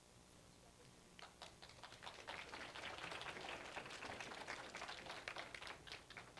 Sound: applause

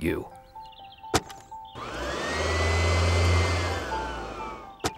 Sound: vacuum whirring

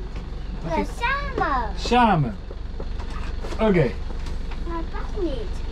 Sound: speak in Dutch

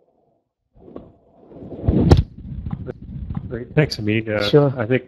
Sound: muffled microphone sounds

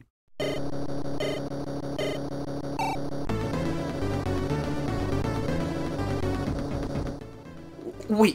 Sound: in-game sound effects and music

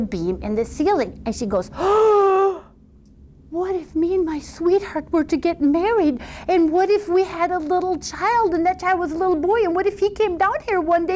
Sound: gasp

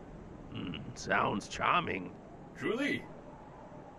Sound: grunt

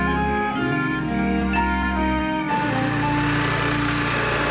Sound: vacuum cleaner whirring

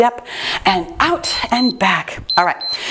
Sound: timer beeps

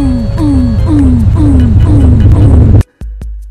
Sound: earrape

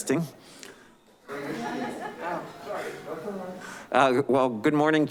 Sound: laughing

